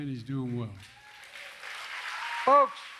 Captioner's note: applause